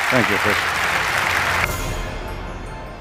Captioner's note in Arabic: تصفيق